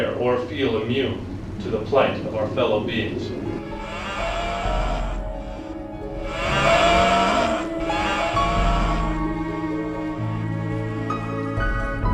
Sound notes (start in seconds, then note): 3.4 animals crying; 3.5 dramatic orchestral music